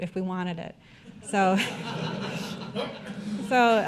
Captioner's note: audience laughter